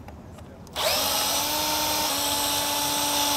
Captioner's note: drill whirs